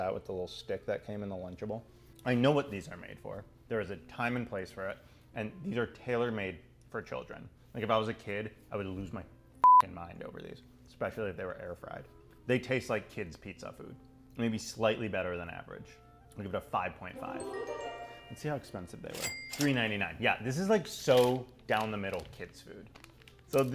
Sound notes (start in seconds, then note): 9.6 beep; 17.1 enchanting tune; 19.1 register ka-sign